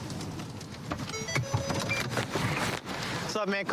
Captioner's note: car notification bell dings